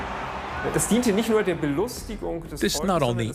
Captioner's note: people cheer and shout; speaking in foreign language